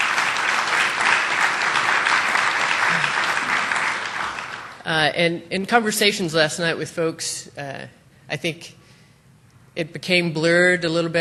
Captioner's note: applause